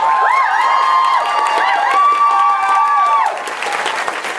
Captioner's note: audience applause